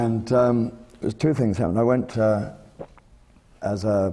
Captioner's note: none